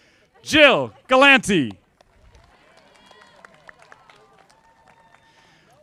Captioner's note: audience applauding